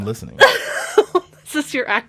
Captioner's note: laughs